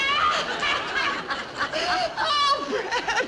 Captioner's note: women laughing